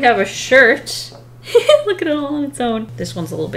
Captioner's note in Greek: Χαχανητό